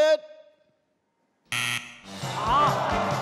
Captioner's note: scoreboard buzzes; audience awws